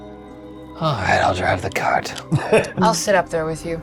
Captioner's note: sighing; chuckling